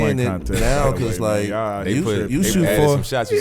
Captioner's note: overlapping chatter